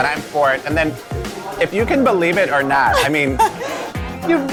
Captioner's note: laughing